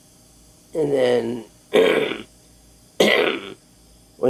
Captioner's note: groaning